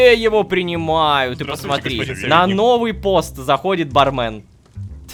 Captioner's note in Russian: хором